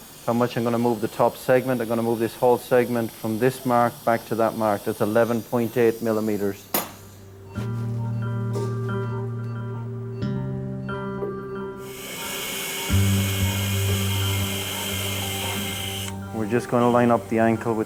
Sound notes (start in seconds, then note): 6.9 gentle music; 7.8 machine beeping; 11.8 drill buzzing